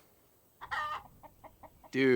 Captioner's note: chicken clucking